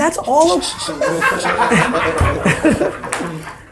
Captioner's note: laughing